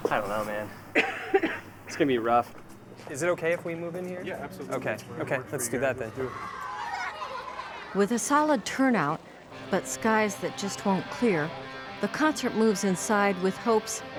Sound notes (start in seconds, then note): 6.3 kids playing